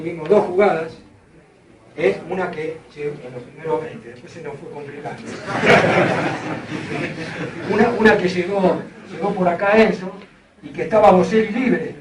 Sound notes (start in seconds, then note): 5.2 laughs